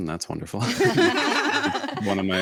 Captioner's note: and hosts laugh